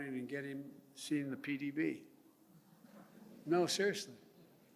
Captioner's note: laughter